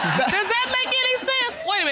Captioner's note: audience laughing